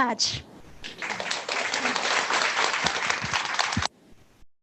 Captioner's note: audience applauding